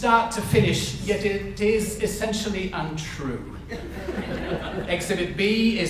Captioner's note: audience laughs